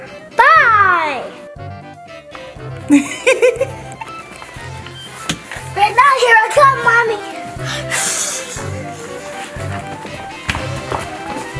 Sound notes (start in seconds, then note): 2.8 Goo Goo Mom laughing; 8.4 adventurous music